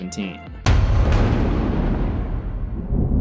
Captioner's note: thunder